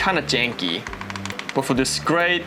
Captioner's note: knocking